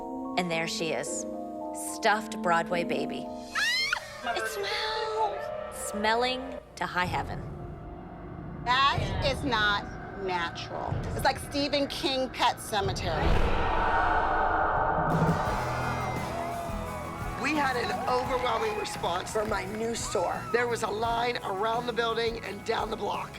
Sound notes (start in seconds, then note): 13.2 cheering